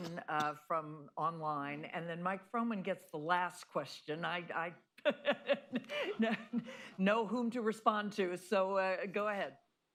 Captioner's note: laughs